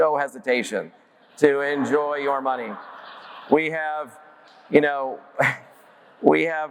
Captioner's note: audience laughs